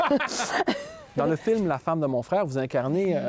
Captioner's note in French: rires